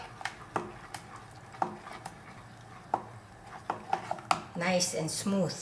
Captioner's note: wooden spoon tapping on pot